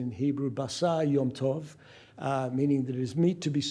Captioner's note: speaking hebrew